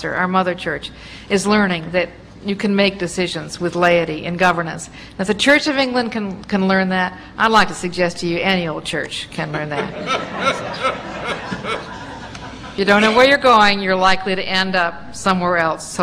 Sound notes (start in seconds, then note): 9.4 laughter